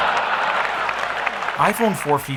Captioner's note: audience laughs